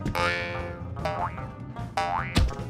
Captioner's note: boing; boink